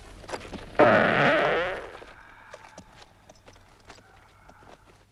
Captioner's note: Torente farts